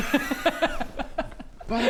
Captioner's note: metagamey laughter